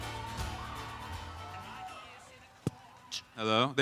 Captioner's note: cheering